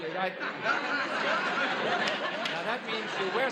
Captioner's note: laughs